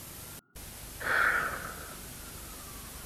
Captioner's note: sigh